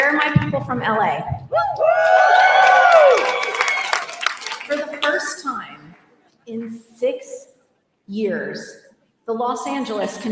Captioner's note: applause